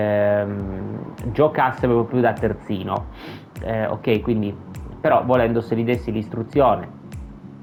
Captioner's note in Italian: sbuffare